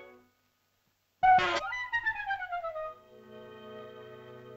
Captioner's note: whimsical music; shell toots and sputters; whimsical music